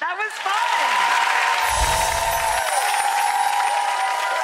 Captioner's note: cheering